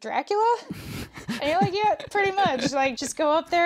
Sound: laughs

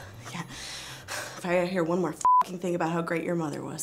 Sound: beep

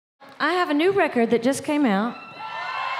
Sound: crow cheering

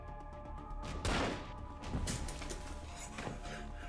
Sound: gun firing

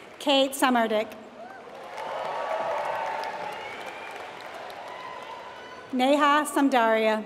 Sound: applause

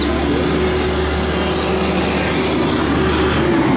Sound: loud construction vehicle passing

